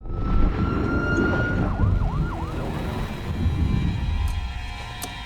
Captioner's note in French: Sirènes lointaines